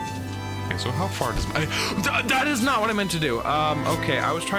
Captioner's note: gasps